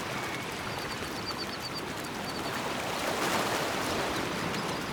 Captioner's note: waves crash